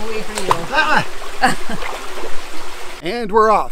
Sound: splashes

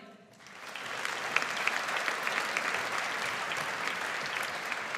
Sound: audience applauds

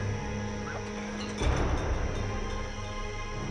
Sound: bottles rattle; ominous music

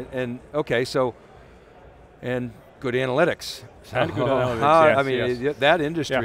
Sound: laughing

